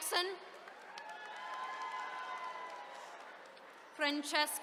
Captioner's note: attendees cheering